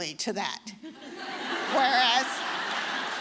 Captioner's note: all laughing